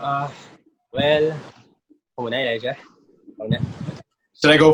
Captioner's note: in Filipino